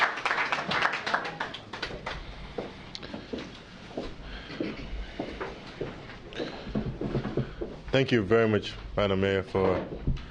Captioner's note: applause